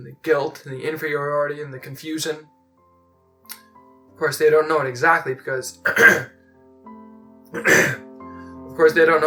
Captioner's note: cough, clears throat